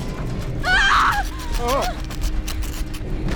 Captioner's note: groans; screams